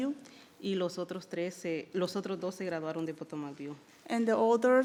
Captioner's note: speaking in foreign language